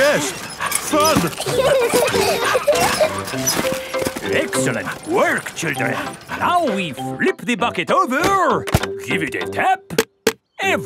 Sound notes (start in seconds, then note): 0.2 straining; 1.7 peppa and george laughing